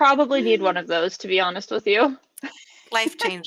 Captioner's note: chuckles; laughing